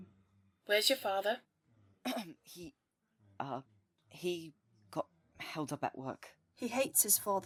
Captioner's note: Remus clears his throat